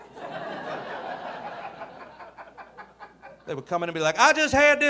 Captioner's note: audience laughing